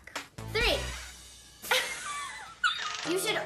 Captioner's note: laughs